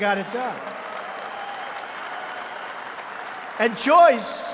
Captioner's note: applause